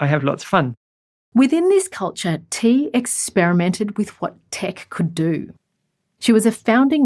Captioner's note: voiceover